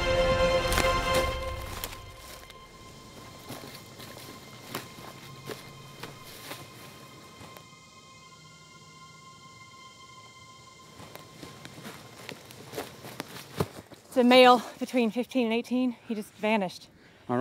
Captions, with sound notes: (insects chirping) (gentle music) It's a male, between 15 and 18, he just vanished.